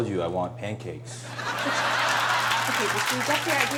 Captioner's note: audience laughing